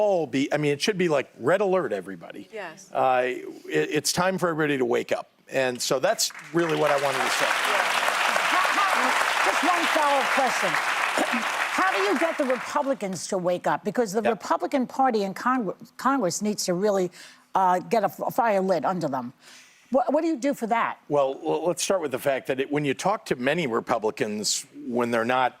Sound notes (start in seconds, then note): 10.1 applause